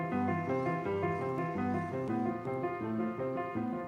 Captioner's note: chirring